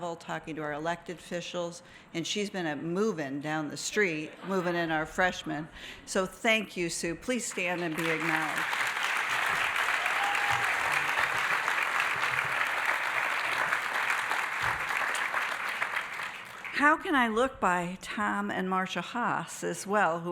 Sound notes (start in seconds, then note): 9.2 audience applauding